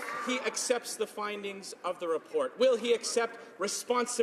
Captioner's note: some Applause